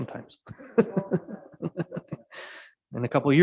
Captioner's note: mayor laughing